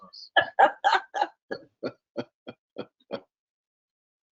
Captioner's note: both laughing